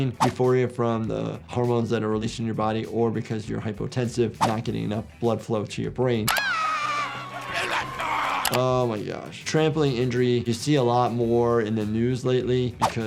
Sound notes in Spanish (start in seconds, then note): 6.3 gente gritando; 7.9 el personaje grita